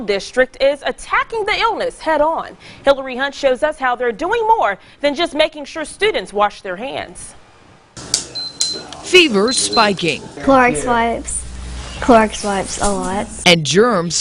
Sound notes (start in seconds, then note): 8.0 nats: beep beep